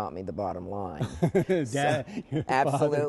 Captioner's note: laughter